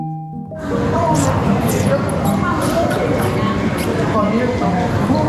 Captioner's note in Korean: 입으로 이상한 소리 내는 중